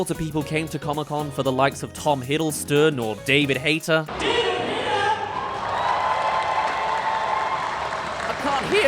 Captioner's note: cheers